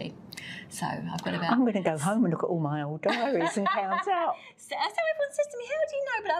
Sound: laughs

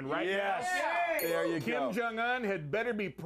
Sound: bell rings

